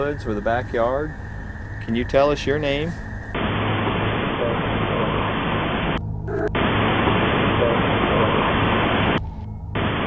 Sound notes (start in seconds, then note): 3.8 static hissing